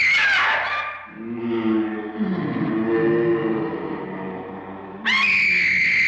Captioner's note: woman screaming; ominous howling; woman screaming